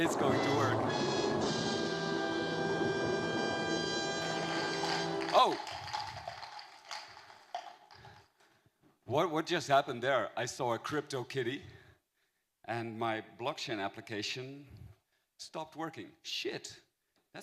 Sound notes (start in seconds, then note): 0.0 threatening Music; 4.1 cups falling on the floor